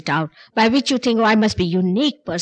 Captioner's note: none